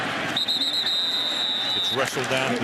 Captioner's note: whistle